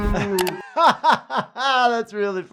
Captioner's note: doctor laughs